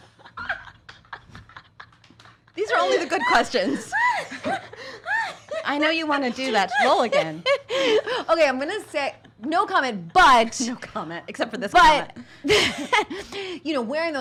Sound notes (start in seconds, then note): 0.0 laughs